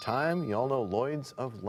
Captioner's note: bell rings, time expires